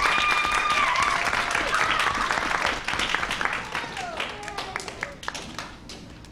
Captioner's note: applause